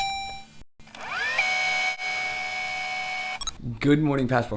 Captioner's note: robotic ding; tape rewinding